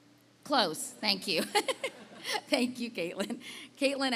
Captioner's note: laughing